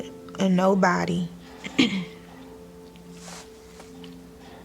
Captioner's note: clears throat